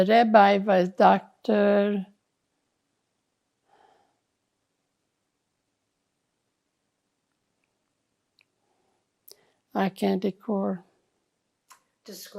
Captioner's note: pauses 8 seconds